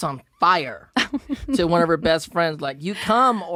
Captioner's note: she laughs